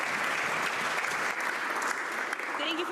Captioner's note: some Applause